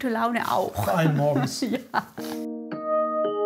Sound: laughs

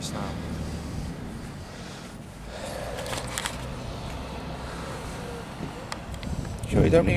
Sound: traffic noise

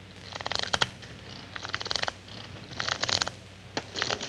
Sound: cards fluttering

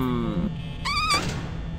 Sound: boo

